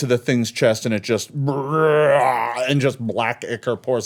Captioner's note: roaring